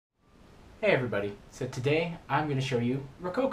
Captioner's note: voiceover